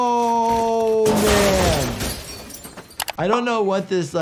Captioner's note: glass shattering